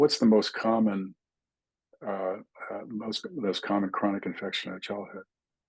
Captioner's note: indistinct chatting